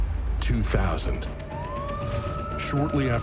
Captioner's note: sirens wailing